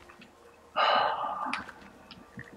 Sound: sighs

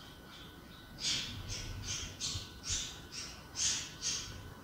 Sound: birds chirping

